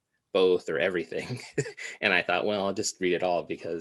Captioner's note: laughs